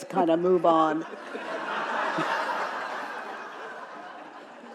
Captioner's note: audience laughing